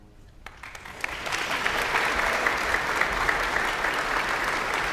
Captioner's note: audience applauds